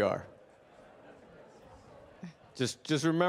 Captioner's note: participants laughing